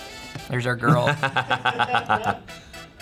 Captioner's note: laughs